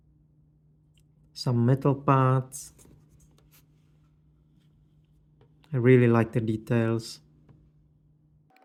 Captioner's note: pause